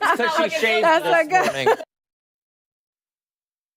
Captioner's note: laughter